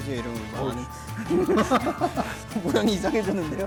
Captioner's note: laughter